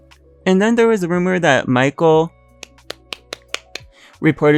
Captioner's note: claps